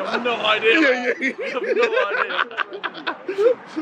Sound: team mumbling

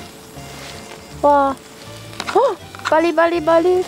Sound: sizzle

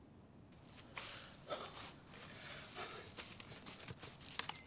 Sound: digging sounds

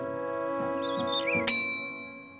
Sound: bell ringing

